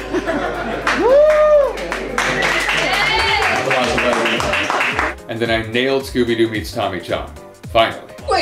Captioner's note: applause